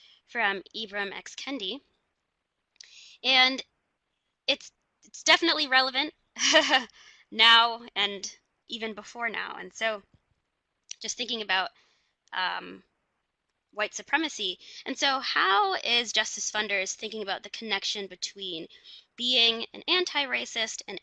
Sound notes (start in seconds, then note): 6.4 laughs